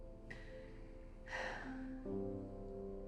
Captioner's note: sigh